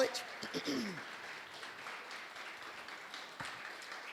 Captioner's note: applause